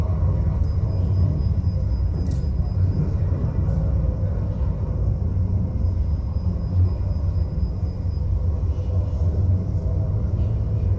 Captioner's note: sound waves resonating